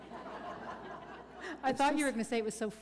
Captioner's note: laughter